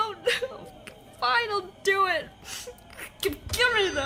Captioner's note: sobs